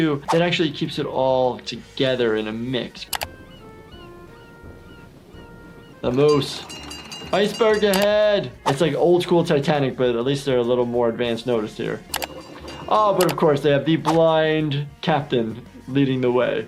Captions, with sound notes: that actually keeps it all together in a mix. (mellow music) (birds squawking) The moose, iceberg ahead! It's like old-school Titanic, but at least they're a little more advanced notice here. Oh, but of course, they have the blind captain leading the way.